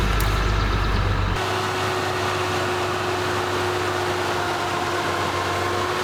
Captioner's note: grapple truck engine revving